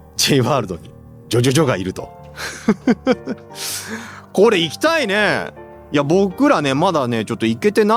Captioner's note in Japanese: 笑い